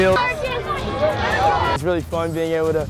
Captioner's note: crowd cheering